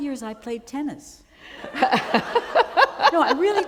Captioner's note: laughter